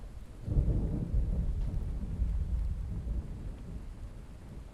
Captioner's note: thunder rolling